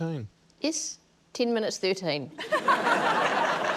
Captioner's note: laughter